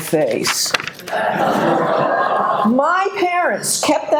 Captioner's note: audience laughing